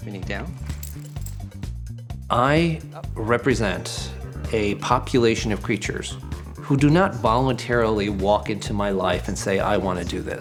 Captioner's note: narrating